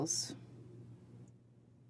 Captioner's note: speaking French